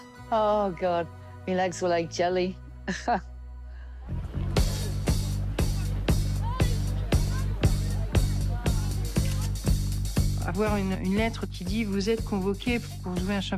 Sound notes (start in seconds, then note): 2.8 she chuckles; 8.8 shutter clicks